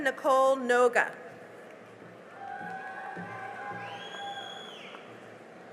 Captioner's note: cheering and applause